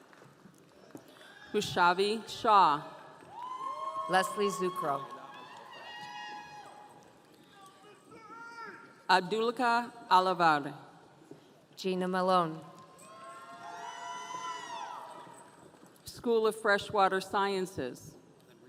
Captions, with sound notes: - Rushavi Shaw. (audience cheering) - Leslie ZuCrow. (audience cheering) - Abdulkah Allavardi. - Gina Malone. (audience cheering) - School of Freshwater Sciences.